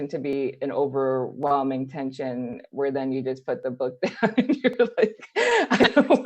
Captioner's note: laughing; laughs